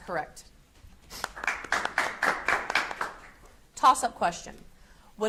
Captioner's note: audience applauds